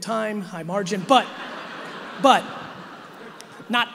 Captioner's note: audience laughing